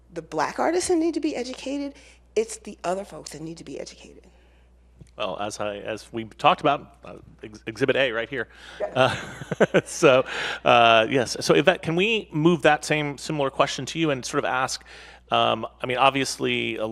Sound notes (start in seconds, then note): 8.8 laughs